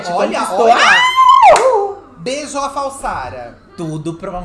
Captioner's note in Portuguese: grita